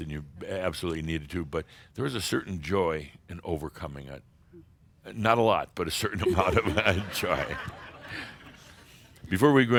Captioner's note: laughter